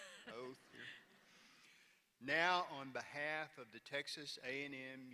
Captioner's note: laughter